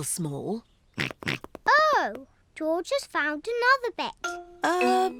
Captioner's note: snorts